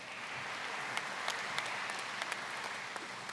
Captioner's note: applause